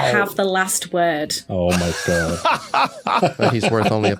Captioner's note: laughs